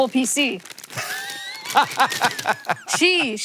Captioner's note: Hank laughing